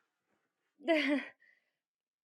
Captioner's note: nyx laughs awkwardly